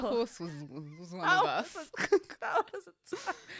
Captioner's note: laughs